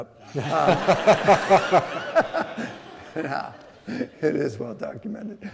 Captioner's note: laughing